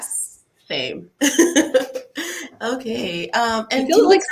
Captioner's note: laughs